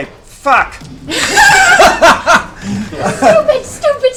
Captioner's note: laughter